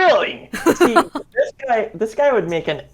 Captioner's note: laughs